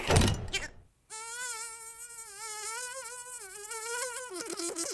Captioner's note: sound of insect buzzing